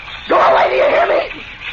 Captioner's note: cackles like a madman